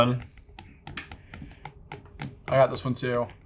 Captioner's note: pen tapping